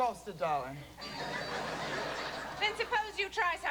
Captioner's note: laughter